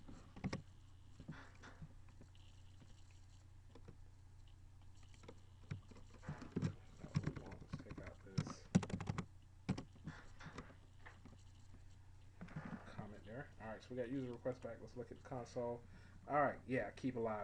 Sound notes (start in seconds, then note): 0.3 typing sounds; 3.2 silence; 5.6 typing and unintelligible mumbling